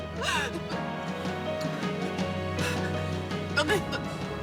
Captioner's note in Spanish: Sollozos